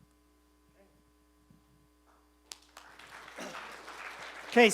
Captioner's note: applause